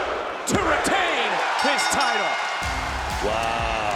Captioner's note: bell dings